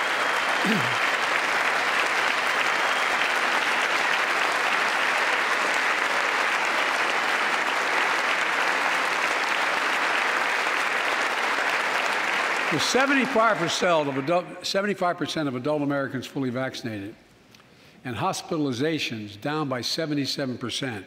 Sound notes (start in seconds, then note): 6.2 applause